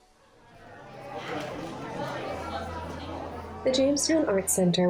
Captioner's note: crowd chatters